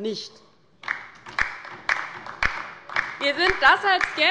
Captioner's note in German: Beifall bei der LINKEN